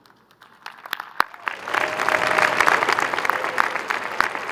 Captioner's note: crowd applauding